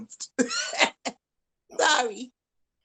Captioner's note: laughs